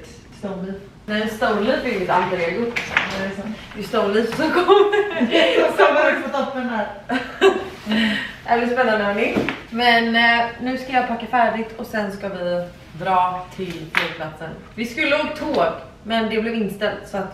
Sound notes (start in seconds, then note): 7.5 laughs